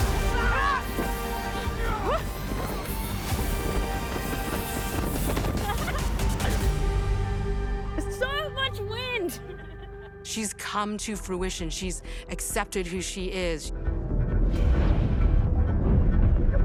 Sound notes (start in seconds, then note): 0.0 yells; 1.4 gasps; 2.0 brigand grunts; 5.5 laughs; 9.4 crew giggles